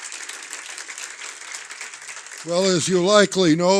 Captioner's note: applause